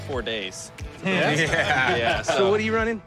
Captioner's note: laughter